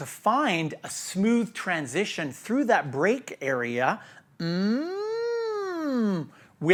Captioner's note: humming